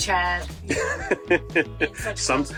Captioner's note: laughing